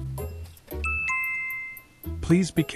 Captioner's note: chime